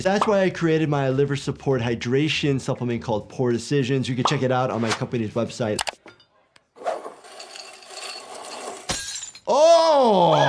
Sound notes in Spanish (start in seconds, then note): 6.8 silbido de vidrio; 7.2 el vidrio tintinea; 7.2 vidrio roto